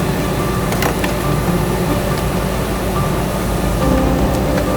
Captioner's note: vehicle creaking; tow truck winch whirring